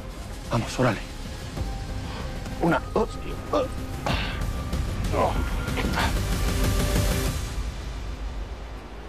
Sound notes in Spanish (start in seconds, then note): 5.1 Quejidos